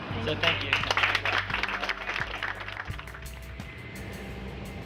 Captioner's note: clapping